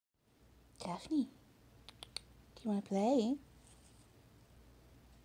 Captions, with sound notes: Daphne [tongue clicking] Do you wanna play?